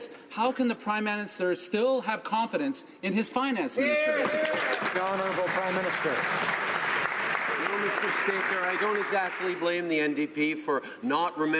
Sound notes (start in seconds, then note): 6.6 some Applause